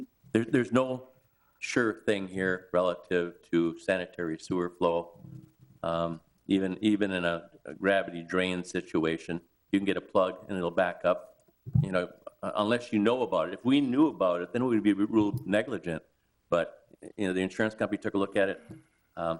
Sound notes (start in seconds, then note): none